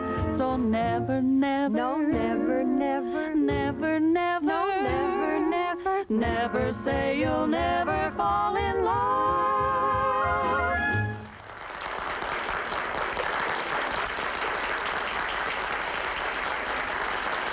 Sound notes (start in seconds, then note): 11.2 applause